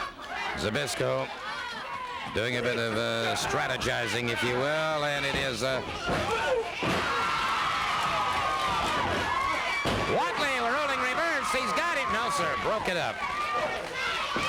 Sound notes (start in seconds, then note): 5.8 crowd cheering